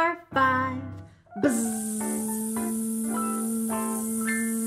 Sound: buzzing

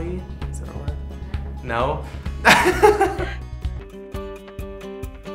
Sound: laughs

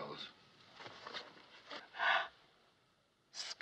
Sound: gasps

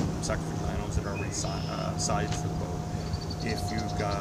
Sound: motor

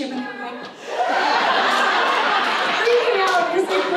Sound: audience laughs

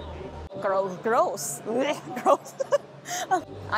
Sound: laughter

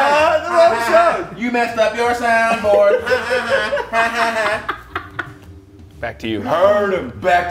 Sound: laugh

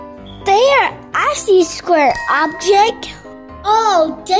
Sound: offscreen Voice

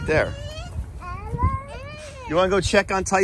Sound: wind blows

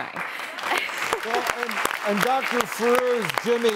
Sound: audience claps

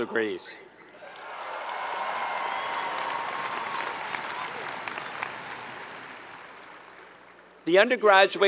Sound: applause

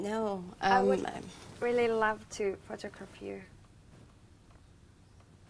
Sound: murmuring

